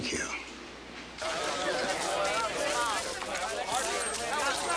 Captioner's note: townsfolk chatter